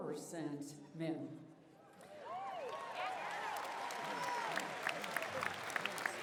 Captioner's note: applause, cheering